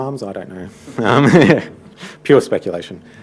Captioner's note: audience laughing